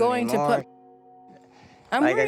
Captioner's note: muted